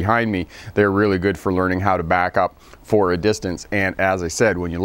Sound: none

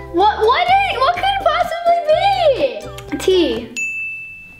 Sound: none

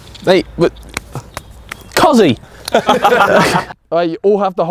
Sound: men laughing

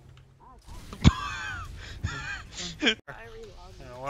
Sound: solid exhale

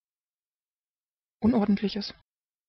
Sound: fast Pronunciation

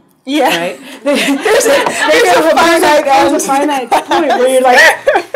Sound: audience laughing

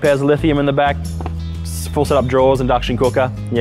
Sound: feet tapping

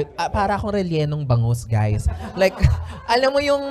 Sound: laughter

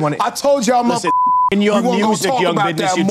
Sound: beep

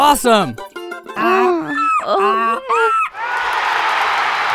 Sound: woman and donkey grunting; cheering crowd

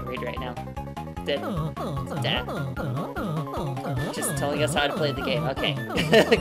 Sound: stammering; laughing

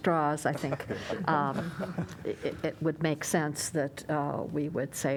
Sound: laughter

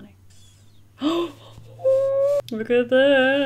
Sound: gasps

